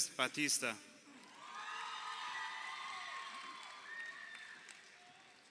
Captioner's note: crowd cheering